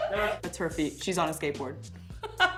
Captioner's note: laughs